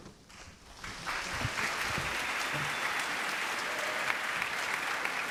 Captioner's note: applause